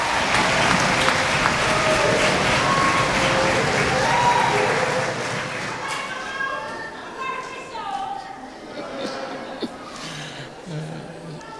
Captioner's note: cheering